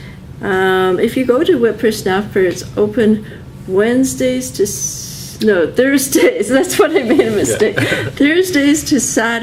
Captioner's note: laughs